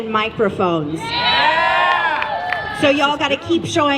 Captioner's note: cheers